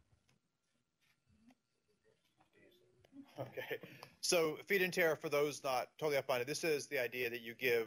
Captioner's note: pause; laughs